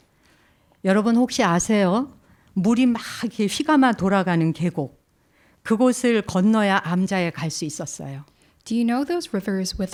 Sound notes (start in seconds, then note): 1.2 speaking in Korean